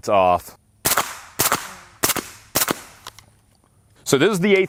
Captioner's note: gun shots